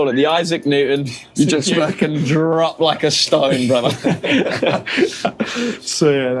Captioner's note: laughter